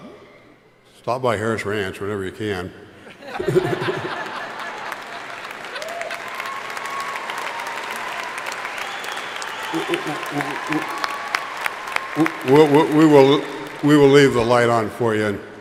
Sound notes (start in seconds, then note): 3.0 crowd laughing; 3.4 crowd applauding